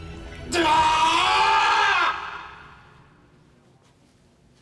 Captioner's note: screams